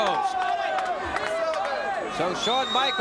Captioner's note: audience chattering